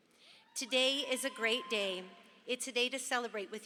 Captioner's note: audience cheers